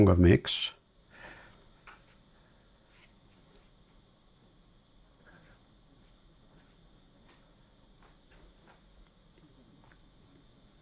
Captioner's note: silence